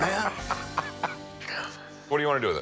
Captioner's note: laughter